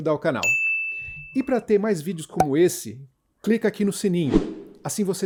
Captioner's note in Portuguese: som de sino; som de whoosh